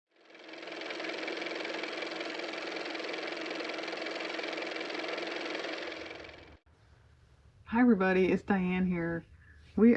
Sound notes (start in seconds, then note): 6.6 car motor